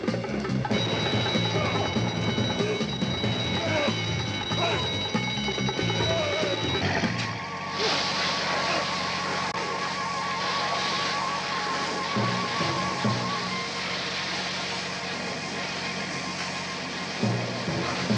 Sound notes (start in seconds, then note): 0.6 alarm bell ringing; 3.3 men continue grunting